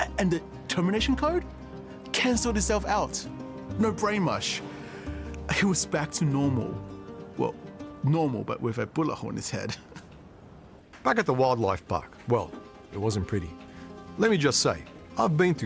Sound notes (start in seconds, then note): 10.5 laughs